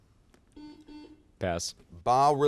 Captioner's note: buzzer sounds